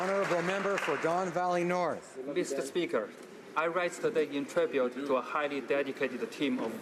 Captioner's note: applause